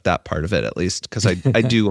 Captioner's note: laughs